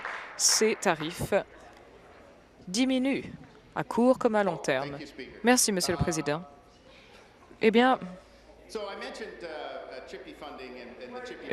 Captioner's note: applause